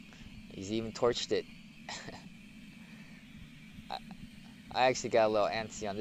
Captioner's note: laughs